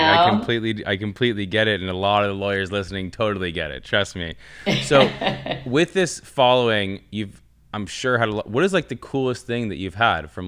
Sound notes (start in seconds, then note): 4.6 chuckling